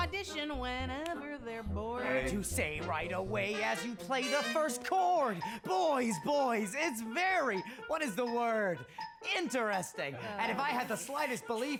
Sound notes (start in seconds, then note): 9.5 others groan